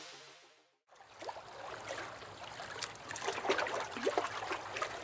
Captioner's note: water lapping